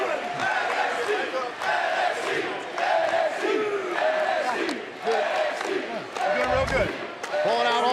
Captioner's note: fans chanting